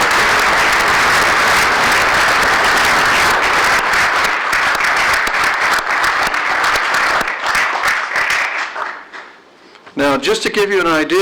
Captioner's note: applause